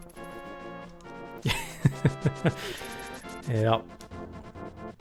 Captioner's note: laughing